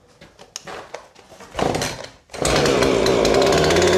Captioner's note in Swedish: Sågen startas